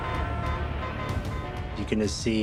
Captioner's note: car horns honking